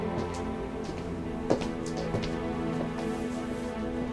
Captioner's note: feet shuffling